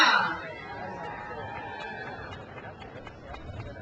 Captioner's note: crowd cheers